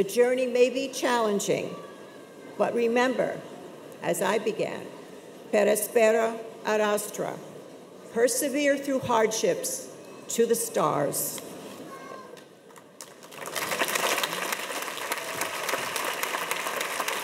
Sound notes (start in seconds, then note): 5.4 speaks foreign language; 13.0 audience applauds